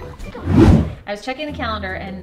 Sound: air whooshing

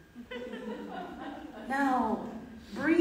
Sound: audience laughs

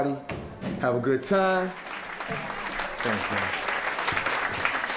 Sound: audience applauding

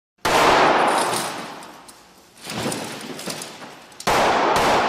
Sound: guns firing

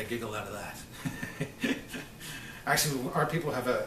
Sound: laughs

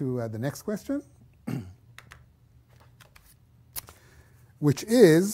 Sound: cough

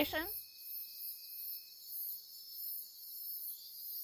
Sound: crickets chirping

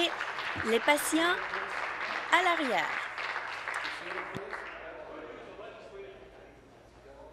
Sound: applause

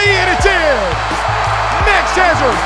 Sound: cheering

